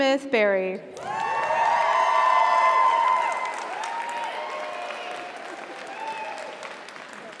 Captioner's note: audience applauds; audience cheers